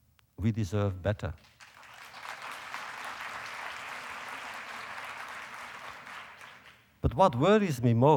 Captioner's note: applause